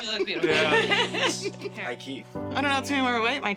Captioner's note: all laughing